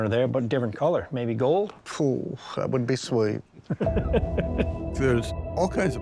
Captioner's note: laughs